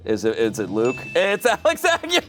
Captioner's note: bell chimes